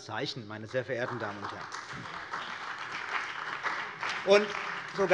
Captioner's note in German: Beifall bei der CDU und dem BÜNDNIS 90/DIE GRÜNEN